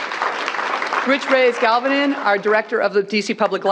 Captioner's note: applause